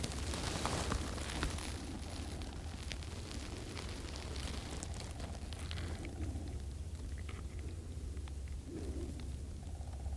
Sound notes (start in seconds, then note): 0.0 grass rustling